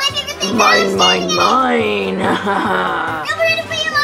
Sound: laughs

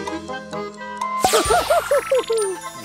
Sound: laughs

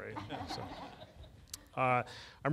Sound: laughing

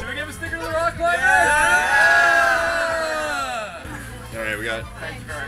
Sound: crowd cheers

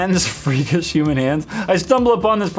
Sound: chuckles

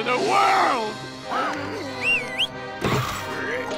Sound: gasps; whistles

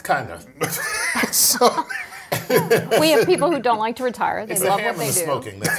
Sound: laugh

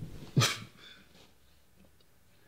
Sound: scoffs

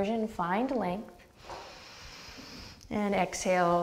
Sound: deep breath

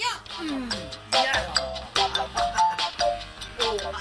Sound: laughs

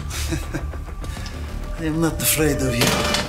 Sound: laughs

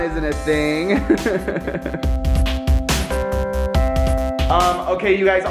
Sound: laughing

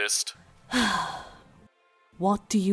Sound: sigh

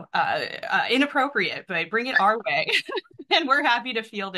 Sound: laughs

